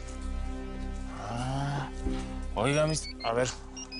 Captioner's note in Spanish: Suena el localizador